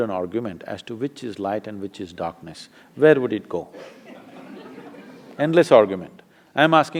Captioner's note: laughter